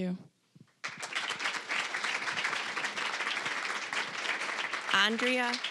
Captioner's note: applause